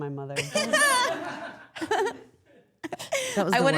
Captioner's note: all laughing